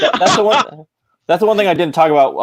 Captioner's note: laughing